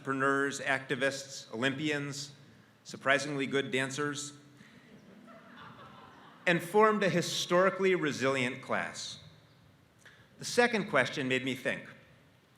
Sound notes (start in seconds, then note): 5.0 laugh